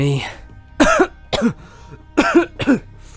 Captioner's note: coughs